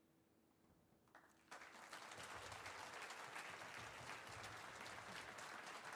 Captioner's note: audience applauding